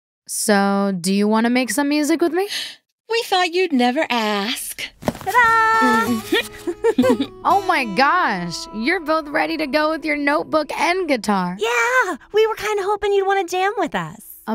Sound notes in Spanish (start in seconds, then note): 2.9 inhala; 5.3 ríe